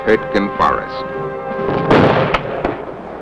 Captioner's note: explosion